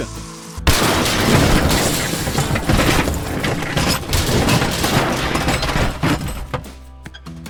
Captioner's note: crash